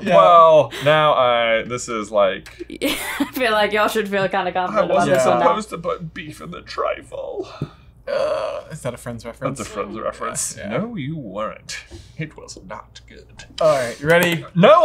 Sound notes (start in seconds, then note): 3.0 chuckles; 8.2 exclaims